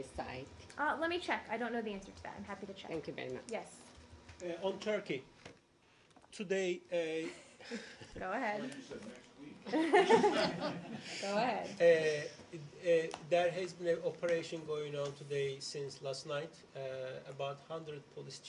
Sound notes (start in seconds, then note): 7.2 laughter; 9.6 laughter